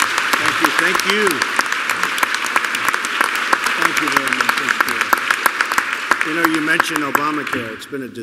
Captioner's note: applause